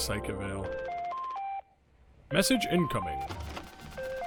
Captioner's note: machine beeps